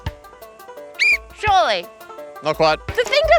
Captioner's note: blows whistle